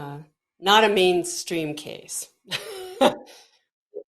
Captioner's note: chuckling